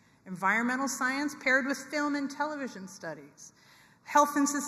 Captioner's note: none